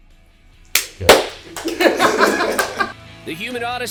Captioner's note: laughter